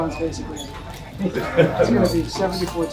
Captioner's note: laughing